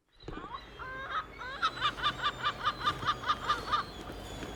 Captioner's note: seagull squawk